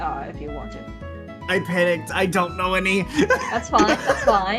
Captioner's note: laughs